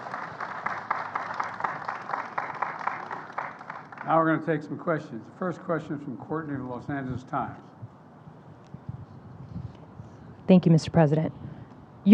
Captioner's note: applause